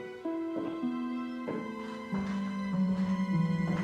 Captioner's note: footsteps approach